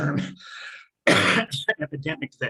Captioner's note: coughing